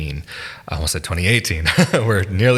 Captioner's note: laughs